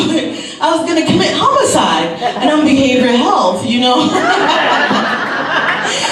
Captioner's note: laughs